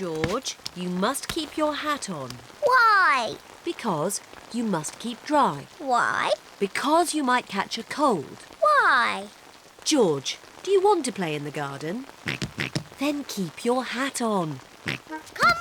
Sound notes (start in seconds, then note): 12.4 oinking; 14.8 oinks